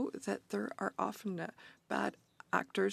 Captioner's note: speaking French